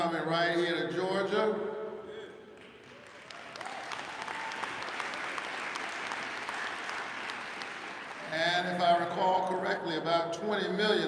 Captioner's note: applause